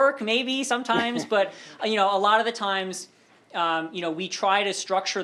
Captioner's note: laughter